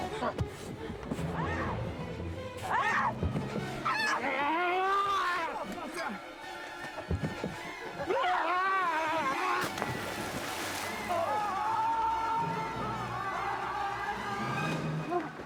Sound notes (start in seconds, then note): 0.9 man yells; 10.7 water splashes; 10.8 men yell